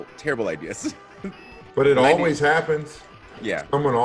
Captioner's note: laugh